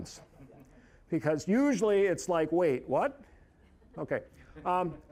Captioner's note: audience chuckling